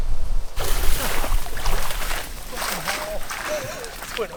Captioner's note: water flowing